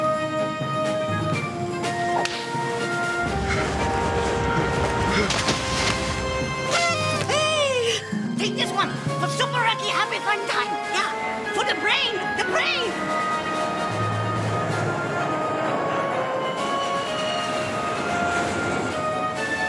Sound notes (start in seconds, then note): 0.1 epic theme music continues; 6.6 noisemaker sound; 13.7 epic theme music continues